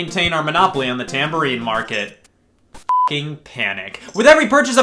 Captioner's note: beep